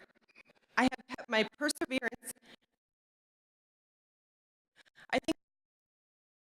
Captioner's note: audio cuts out